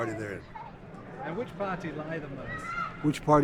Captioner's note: voiceover